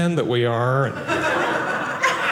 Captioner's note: audience laughing